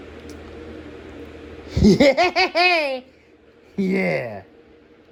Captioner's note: cackling